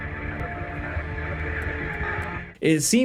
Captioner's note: static crackling